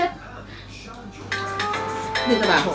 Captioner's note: phone rings